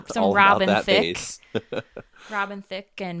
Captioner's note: laughs